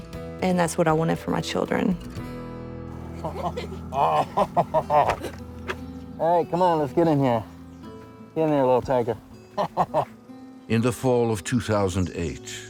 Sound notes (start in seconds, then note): 3.0 all giggling; 9.5 giggles